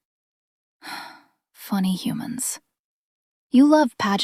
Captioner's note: sighs